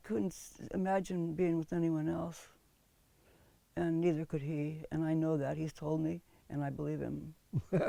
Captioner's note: laughs